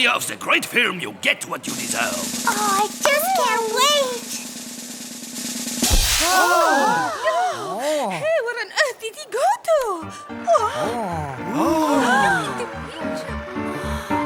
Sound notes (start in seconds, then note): 1.6 drum roll playing; 5.7 cymbals crashing; 6.1 audience gasping; 10.0 jaunty piano music